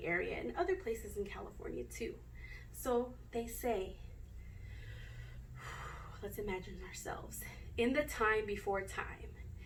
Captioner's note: takes deep breath in